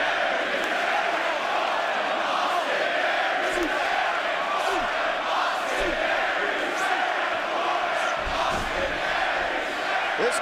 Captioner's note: fans chanting